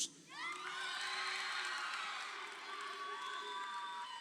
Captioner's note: crowd cheering